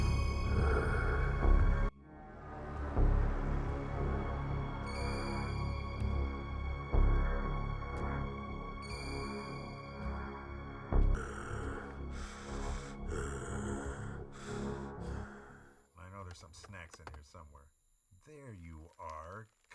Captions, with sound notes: (foreboding music) (Meathook Man growling) - I know there's some snacks in here somewhere. There you are.